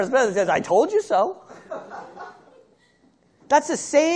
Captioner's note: laughter